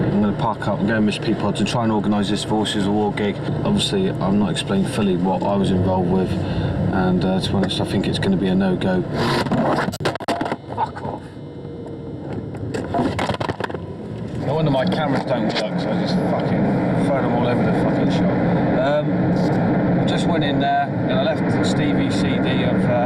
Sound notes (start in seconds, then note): 12.8 objects clattering